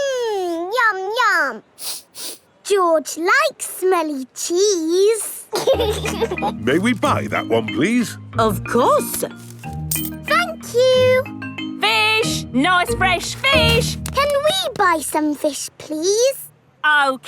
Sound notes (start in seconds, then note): 1.8 sniffs; 5.5 laughing